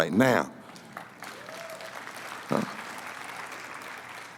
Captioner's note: applause